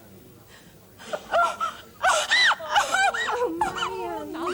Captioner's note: sobs